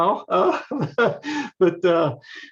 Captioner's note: laughs